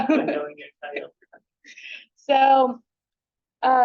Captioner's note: chuckles; speaks faintly